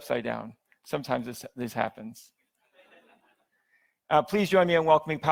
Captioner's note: audience laughs